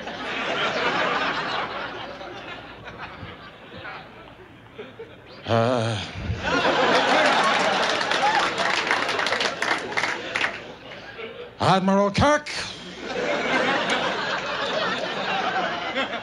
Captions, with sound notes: (audience chuckles) Huh. (audience applauds) Admiral Kirk. (audience laughs)